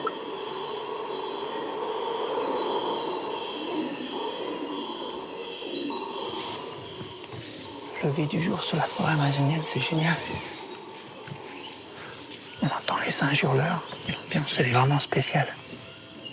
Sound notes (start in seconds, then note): 1.9 screams of howler monkeys